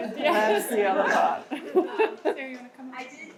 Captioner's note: laughs